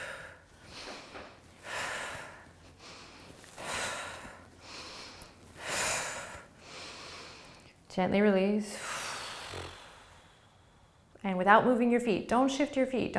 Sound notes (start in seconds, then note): 0.6 breathing; 8.7 exhaling